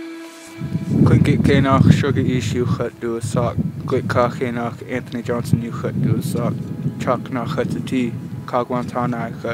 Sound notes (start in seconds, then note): 0.7 speaking in native language